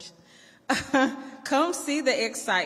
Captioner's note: laughs